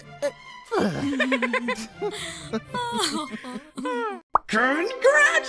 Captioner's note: all laughing